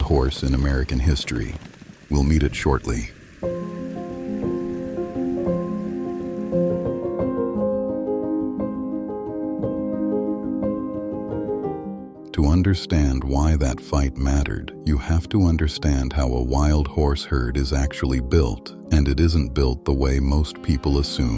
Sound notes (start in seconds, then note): 2.9 hoofbeats fading into the distance; 3.1 music transitions